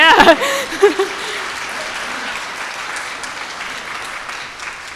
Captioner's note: audience applauding